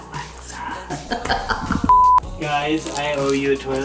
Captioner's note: laughs